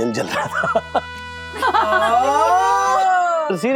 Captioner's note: laughs